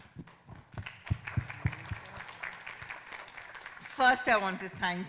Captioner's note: audience applauding